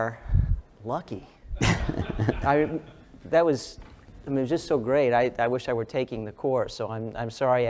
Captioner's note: laugh